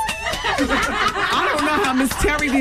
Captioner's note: laughing